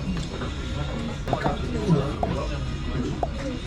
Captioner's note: noticeably slower chewing